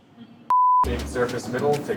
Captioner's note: beep